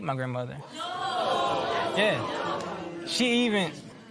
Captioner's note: spectators murmur